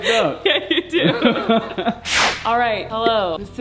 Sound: both laughing

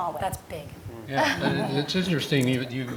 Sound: laugh

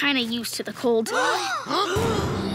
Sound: gasping

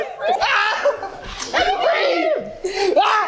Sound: Jason cries in shock

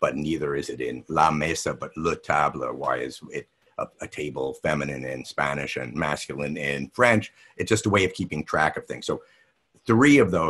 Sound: French

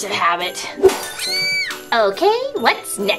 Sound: screaming

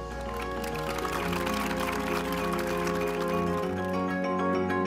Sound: audience clapping; upbeat music

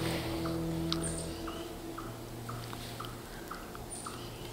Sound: birds chirping, singing

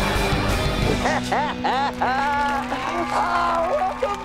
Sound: laughing

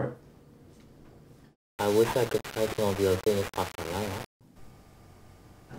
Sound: audio malfunction

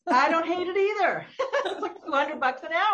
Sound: both laughing

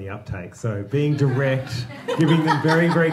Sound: audience laughing

